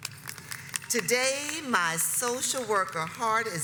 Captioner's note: audience applauds